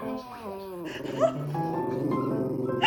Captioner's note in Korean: 아우우우우웅